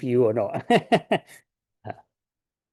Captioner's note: laughs